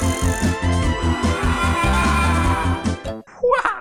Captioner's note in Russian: крик боли